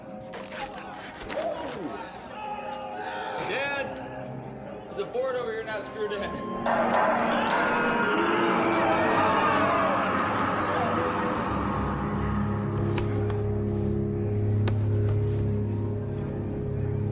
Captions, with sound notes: DAD. THERE'S A BOARD OVER HERE NOT SCREWED IN. [CLANKING] [SCREAMING]